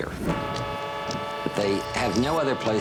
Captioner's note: honking